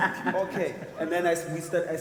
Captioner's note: people laugh